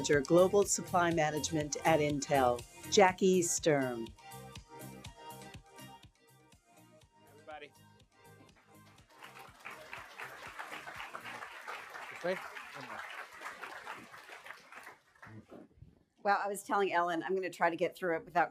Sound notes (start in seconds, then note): 8.8 applause